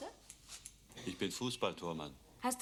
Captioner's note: speaking german